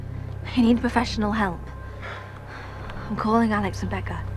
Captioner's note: sighs